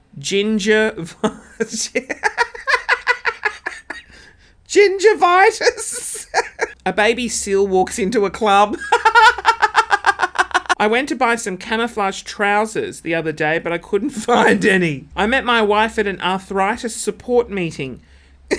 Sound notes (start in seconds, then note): 1.1 laughing; 5.4 laughs; 8.7 laughing